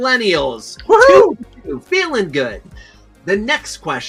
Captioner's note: screams